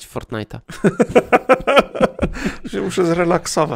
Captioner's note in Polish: śmiech